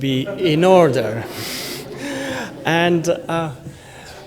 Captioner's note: laughter